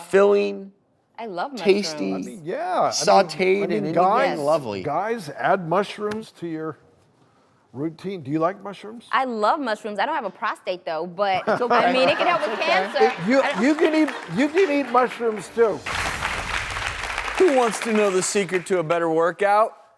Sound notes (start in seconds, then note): 11.4 laughing